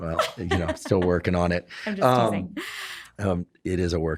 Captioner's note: laughs